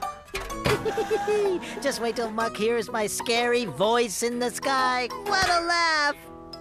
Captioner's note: giggling